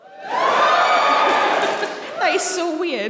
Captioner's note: cheering